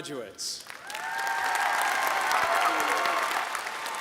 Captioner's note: applause